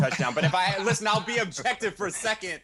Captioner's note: laughing